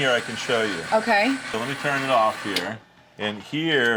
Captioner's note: machine clicks off